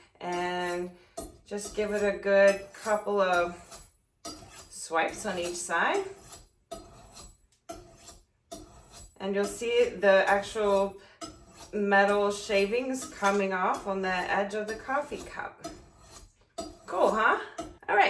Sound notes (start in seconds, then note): 6.3 metal sharpening